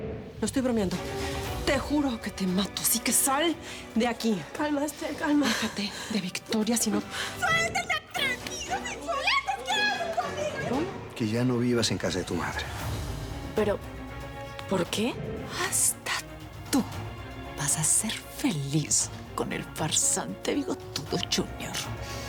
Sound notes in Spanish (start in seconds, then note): 8.1 Gritos y exclamaciones